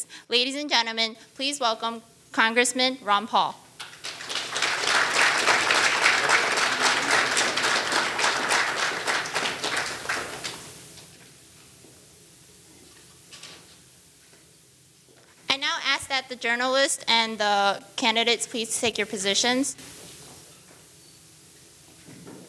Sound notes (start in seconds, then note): 3.8 audience applauding